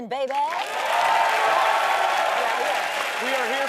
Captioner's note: audience cheering